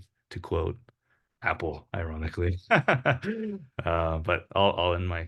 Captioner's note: chuckles